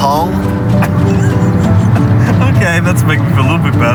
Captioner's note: laughs